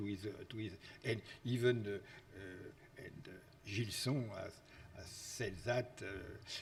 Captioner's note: speaks foreign language